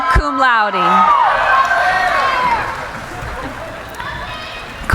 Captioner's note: cheering